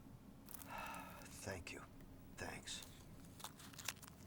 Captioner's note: sighs